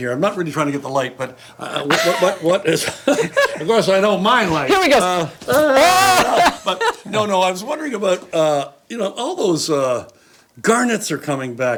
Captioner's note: all laugh